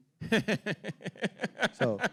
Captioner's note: laughing